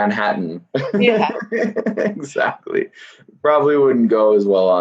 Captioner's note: laughs